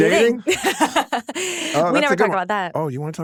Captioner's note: laughing